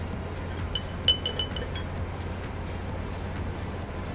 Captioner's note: spoon tapping